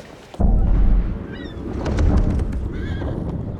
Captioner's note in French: Les mouettes appellent